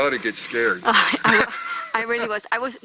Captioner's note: everyone laughs